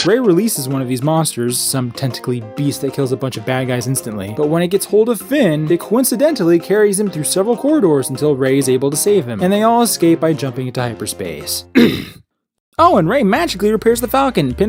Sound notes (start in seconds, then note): 11.7 clears throat loudly